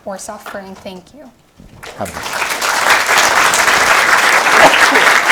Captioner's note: audience applauding